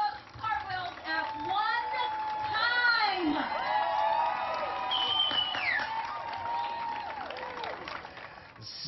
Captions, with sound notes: SET -- GO! [ CHEERING ] CONGRATULATIONS, YOU SET A NEW WORLD RECORD FOR THE MOST